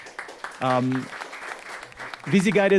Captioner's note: audience clapping